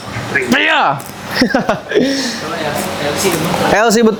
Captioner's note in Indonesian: tertawa